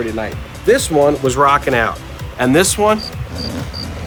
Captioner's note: crickets, snoring